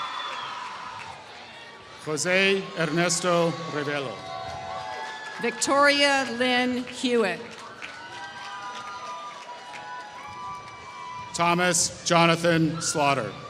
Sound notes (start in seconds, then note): 8.6 applause